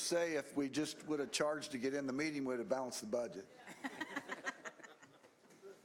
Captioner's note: laughter